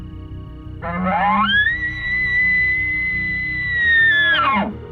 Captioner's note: shooter bugling